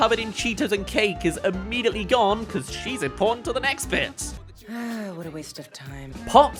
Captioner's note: sigh